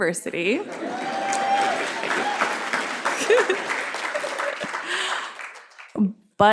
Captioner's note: cheers and applause